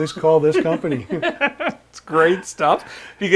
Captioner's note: laughing